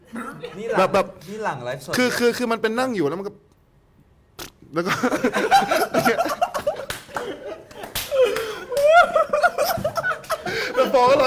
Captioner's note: everyone dies of laughter